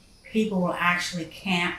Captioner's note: insects buzzing